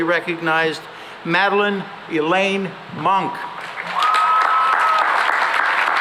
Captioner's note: cheering and applause